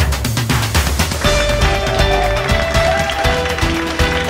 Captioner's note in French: acclamations